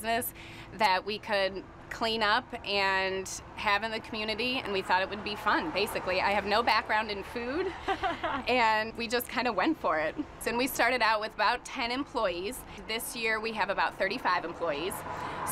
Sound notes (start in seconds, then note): 7.5 laughing